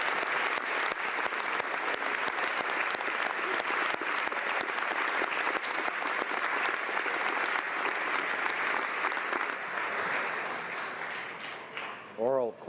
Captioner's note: applause